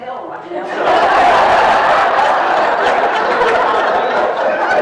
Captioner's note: people laughing